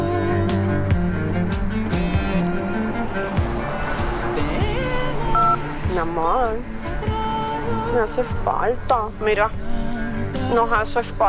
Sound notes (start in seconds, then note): 1.9 phone buzzes; 6.4 Esperanza speaks in Spanish